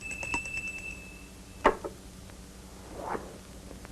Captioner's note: bell rings